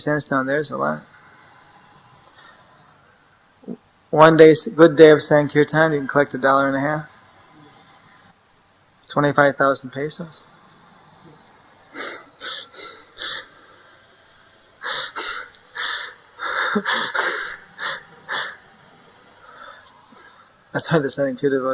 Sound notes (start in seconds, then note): 11.8 laughs